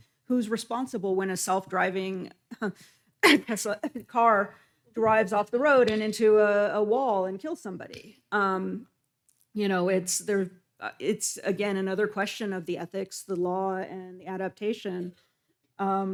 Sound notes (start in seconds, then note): 3.2 coughs